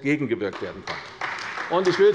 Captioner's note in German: Beifall bei der CDU